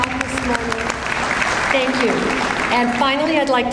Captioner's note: audience applauds